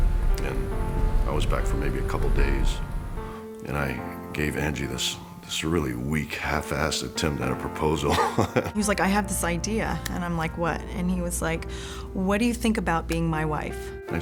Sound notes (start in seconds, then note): 8.0 laugh